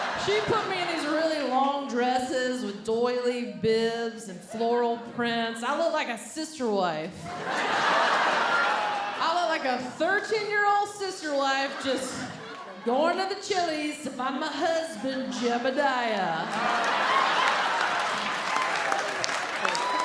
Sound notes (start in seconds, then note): 7.2 audience laughing; 16.9 audience laughing